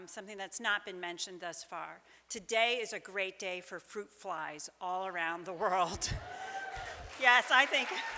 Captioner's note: audience cheers